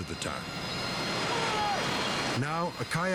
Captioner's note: kayaker shouts